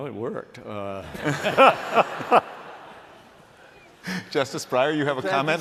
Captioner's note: laughter